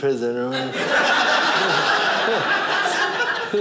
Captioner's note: audience laughing